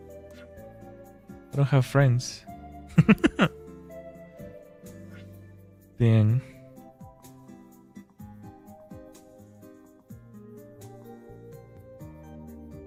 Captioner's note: laughter